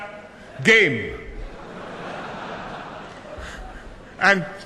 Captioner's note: laughter